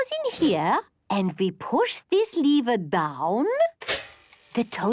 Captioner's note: clicks